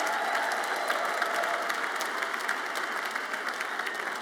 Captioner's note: audience applauds